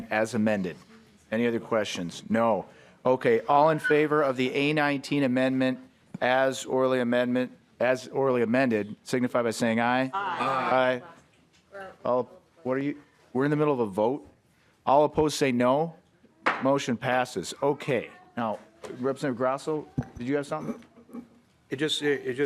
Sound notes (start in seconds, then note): 14.8 chorus of ayes